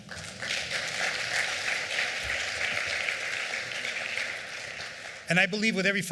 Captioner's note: applause